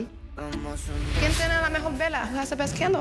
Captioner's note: speaking Spanish